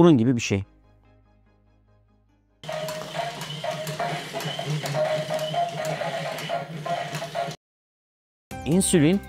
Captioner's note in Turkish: robottan gelen gürültü sesi